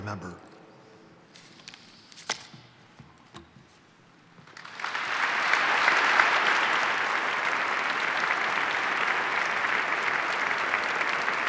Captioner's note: applause